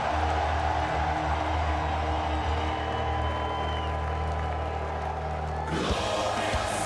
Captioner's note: cheers and applause